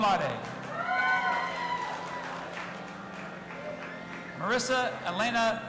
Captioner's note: audience applauding and cheering